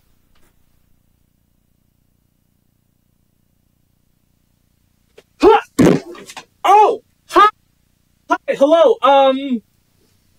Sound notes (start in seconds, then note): 5.8 slam